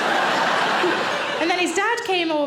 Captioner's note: audience laughs